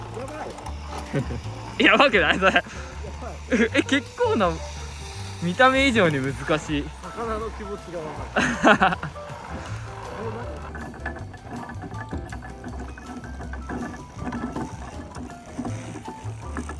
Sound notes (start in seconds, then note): 8.1 laughs